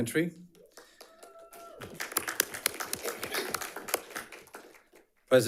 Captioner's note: audience applauds